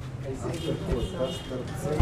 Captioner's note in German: Hupen